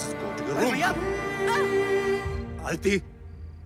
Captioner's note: Aditi grunts